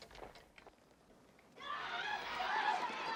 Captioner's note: indistinct screaming